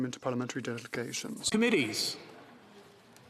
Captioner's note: speaking French